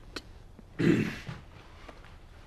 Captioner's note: clears throat